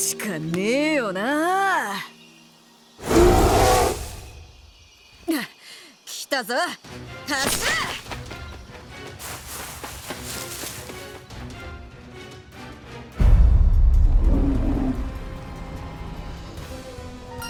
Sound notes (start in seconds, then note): 3.0 roar